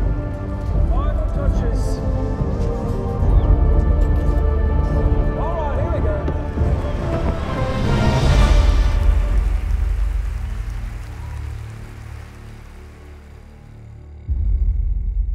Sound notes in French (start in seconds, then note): 8.6 applaudissements